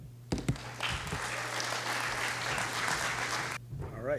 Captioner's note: applause